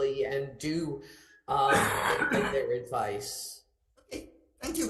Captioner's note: member coughing